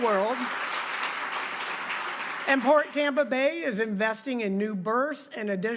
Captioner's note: applause